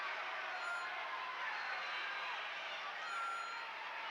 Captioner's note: crowd chattering